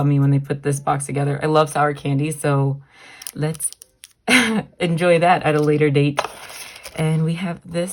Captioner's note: chuckle